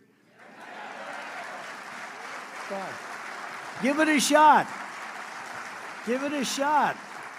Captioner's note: applause